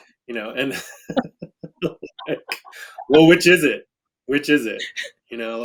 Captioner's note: laughs